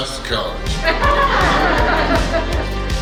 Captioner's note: hahaha